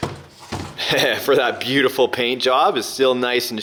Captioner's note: laughs